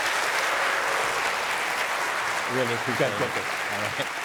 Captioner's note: applause